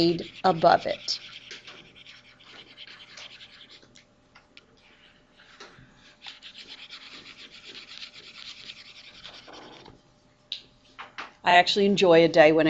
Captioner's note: mouse scribbles